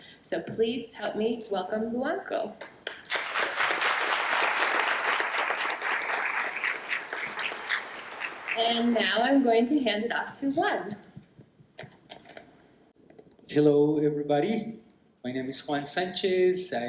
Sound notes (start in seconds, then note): 2.8 applause